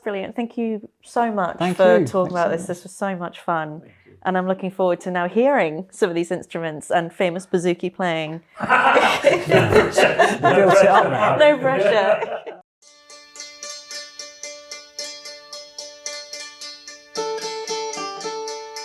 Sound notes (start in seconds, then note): 8.6 laughter